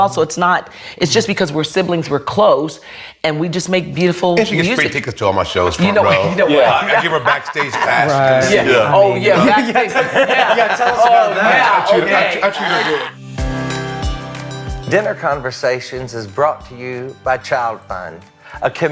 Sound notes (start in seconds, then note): 9.1 laughs; 12.7 laughs; 13.5 lively music